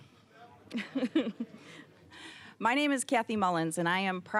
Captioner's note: chuckling